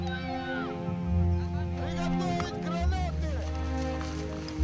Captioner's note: Russian spoken audio